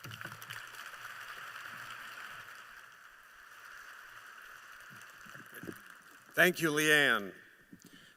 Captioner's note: applause